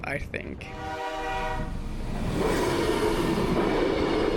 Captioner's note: train horn blaring; train whooshing